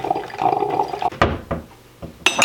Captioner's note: boiling water; door thump; glass clinks